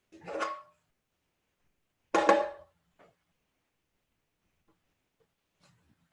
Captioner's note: silence